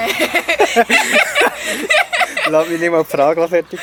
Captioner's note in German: beide lachen